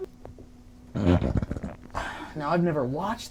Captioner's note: loud rumbling